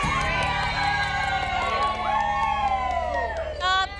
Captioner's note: girls cheering; all whooping